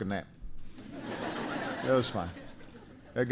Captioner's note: laughter